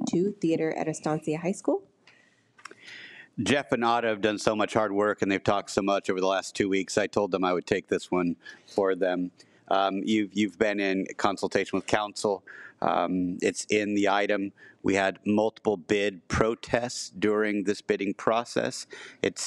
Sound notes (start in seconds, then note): none